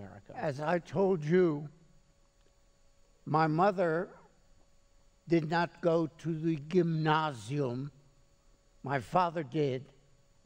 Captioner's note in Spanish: hablando alemán